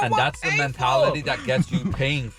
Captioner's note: laughing